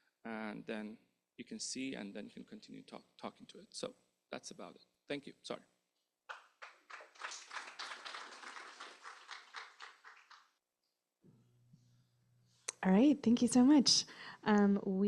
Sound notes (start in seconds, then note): 6.3 applause